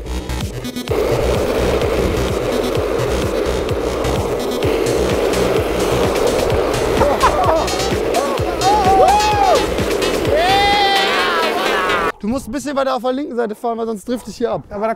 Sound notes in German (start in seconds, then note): 1.2 Elektronische Musik; 8.1 Jubelschreie